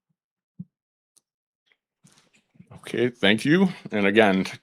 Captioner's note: moment of silence